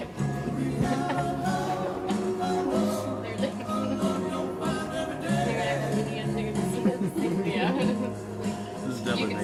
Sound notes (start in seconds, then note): 5.0 man and woman chattering